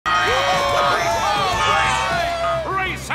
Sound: cheering

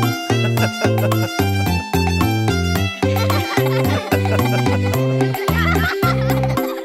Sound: upbeat music; all laughing

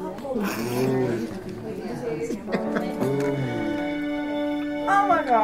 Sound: laughing

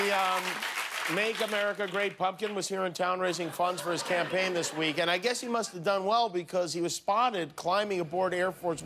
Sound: cheers and applause

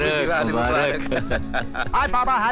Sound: laughs

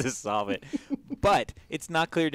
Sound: laugh

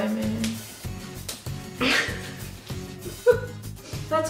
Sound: laughter is shared

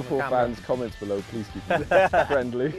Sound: all laugh

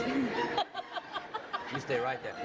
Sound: laughter

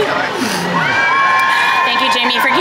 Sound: people cheering; person sniffles

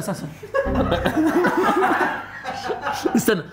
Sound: laughter

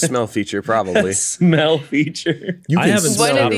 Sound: laughs

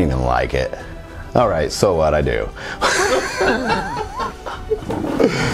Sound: laughs

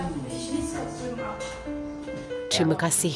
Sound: speaking German

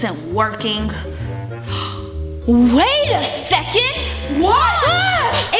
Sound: gasps

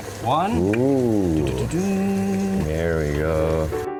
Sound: boiling water

